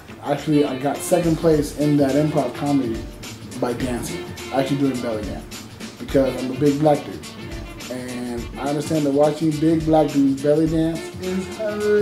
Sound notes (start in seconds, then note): none